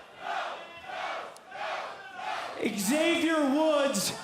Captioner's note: fans chanting